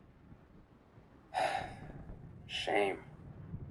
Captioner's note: sighs